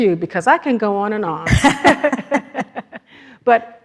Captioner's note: everyone laughs